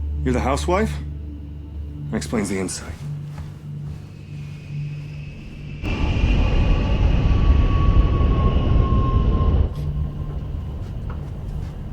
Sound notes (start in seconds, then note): 4.0 airplane engine roaring